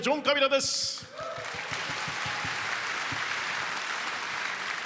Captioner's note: applause